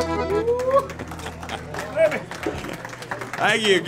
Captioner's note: audience applauds